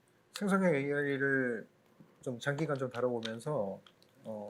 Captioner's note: speaking korean